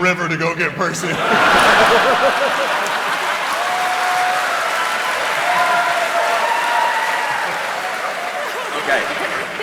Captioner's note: cheering